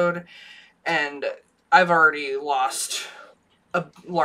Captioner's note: none